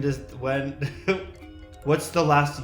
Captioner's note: chuckles